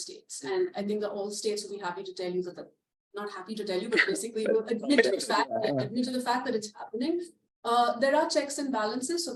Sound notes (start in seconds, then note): 4.8 laughter